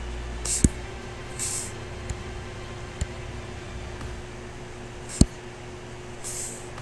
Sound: faint techno music; computer mouse tapping

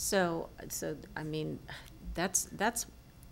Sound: none

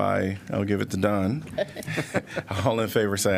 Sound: laughter

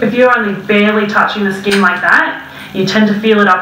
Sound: clicks

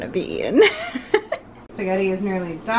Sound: laughing

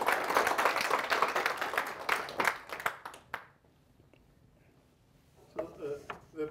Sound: applause

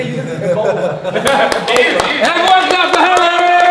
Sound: applauds

